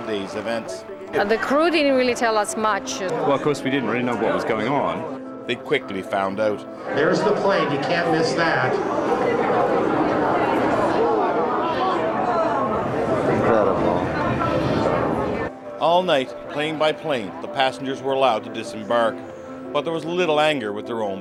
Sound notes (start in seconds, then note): 12.5 crowd murmuring